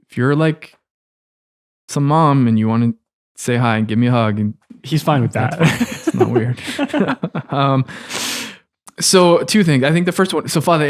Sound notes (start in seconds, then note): 5.1 laughing